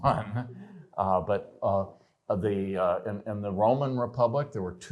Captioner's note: laughter